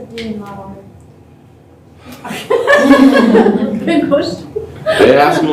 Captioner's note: laughter